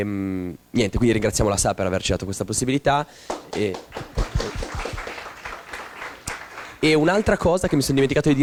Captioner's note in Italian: applausi